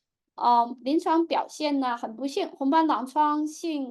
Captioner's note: speaking chinese